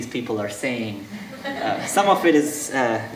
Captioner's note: audience laughing